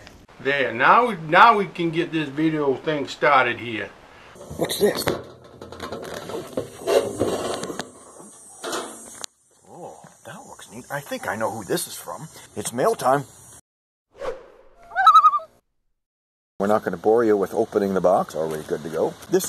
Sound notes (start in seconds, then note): 14.8 loon calls